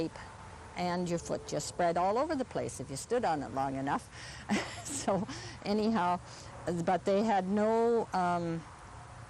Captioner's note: laughs